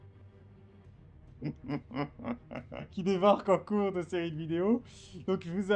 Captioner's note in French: rire